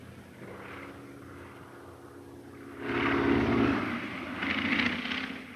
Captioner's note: Phantom buzzing